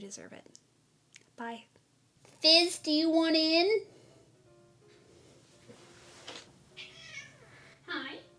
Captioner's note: meow!